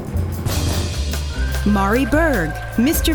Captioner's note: drumroll; applause